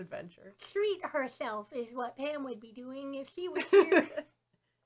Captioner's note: laughs